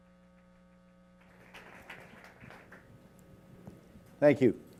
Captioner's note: applause